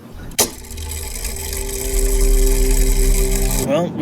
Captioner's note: mechanical whirring